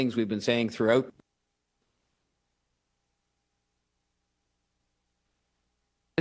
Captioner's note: lost audio connection